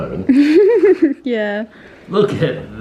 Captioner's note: laughing